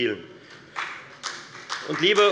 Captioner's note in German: Beifall bei der FDP und der CDU